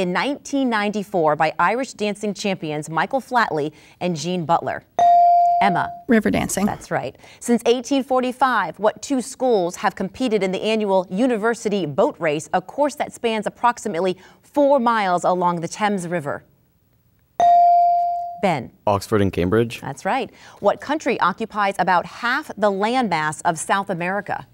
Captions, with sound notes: show was started in 1994 by Irish dancing champions Michael Flatley and Jean Butler? (dinging) Emma - Riverdancing - That' right. Since 1845, what two schools have competed in the annual university boat race, a course that spans approximately four miles along the Thames river? (dinging) - Ben - Oxford and Cambridge? - That's right. What country occupies about half the land mass